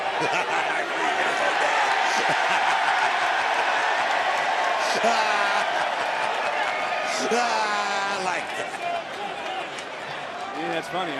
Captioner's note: laughing